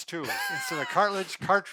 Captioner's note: laughing